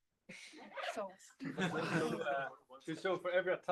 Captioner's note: laughter, crosstalk